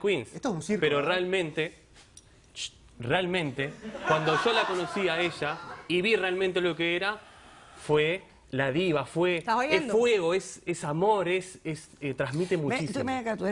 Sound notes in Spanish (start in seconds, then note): 3.8 Risas del público